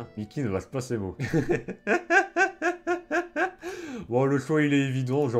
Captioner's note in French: Rires